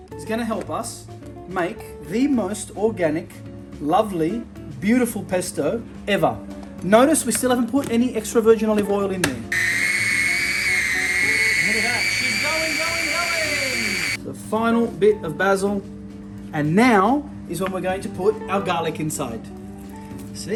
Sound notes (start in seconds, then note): 9.5 blender grinding